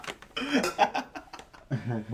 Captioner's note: laughing